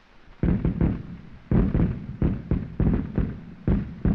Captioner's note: continuous explosions